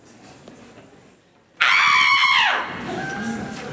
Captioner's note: scream